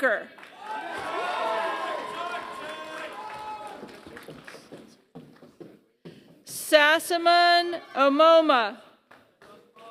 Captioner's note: applause; applause